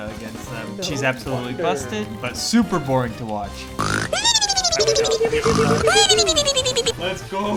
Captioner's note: snoring sounds